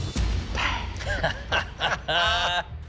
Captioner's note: laughter